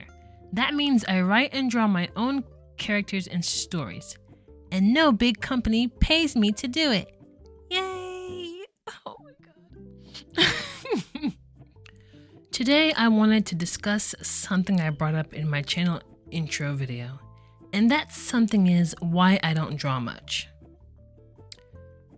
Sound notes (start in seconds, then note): 10.1 laughs in sadness